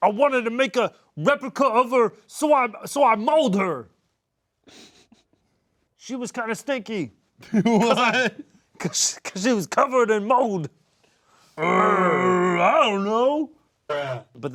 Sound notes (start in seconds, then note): 4.6 snickering; 7.4 laughing; 13.7 distorted Voice